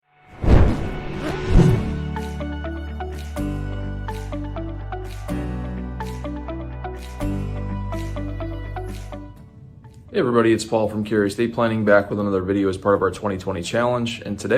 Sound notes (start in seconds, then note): 0.4 air whooshing; 2.2 upbeat music